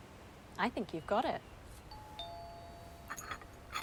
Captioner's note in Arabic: رنين جرس الباب